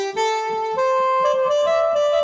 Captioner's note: none